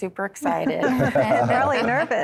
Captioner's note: laughter